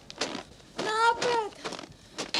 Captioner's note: Crunch; creak